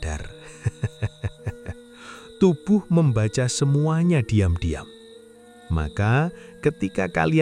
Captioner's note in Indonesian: tertawa